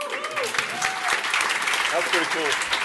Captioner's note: applause